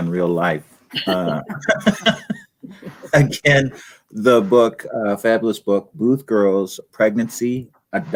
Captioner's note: laughter